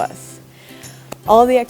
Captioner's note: clap